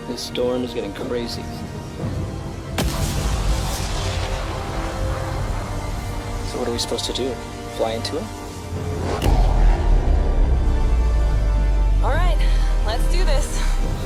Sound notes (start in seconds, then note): 3.0 lighting cracking